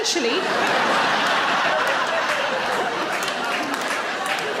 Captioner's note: audience laughing